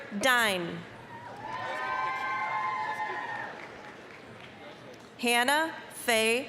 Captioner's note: applause, cheering